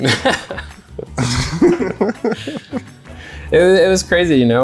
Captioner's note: laughs